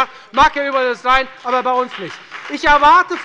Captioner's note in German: Beifall bei der FDP